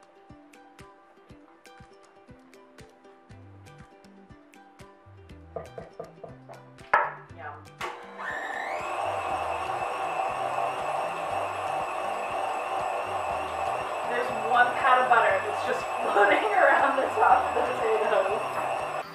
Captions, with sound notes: [upbeat music playing] Yum. [whirring sounds] There's one pat of butter. It's just floating around the top of the potatoes.